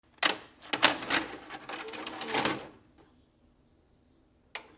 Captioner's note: videotape clatters